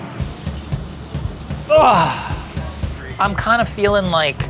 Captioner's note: up-tempo percussive music; groans loudly